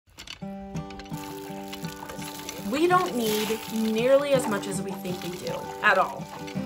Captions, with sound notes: (pump creaking) (gentle music) - This'll do. We don't need nearly as much as we think we do, at all.